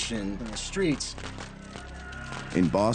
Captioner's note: fireworks crackling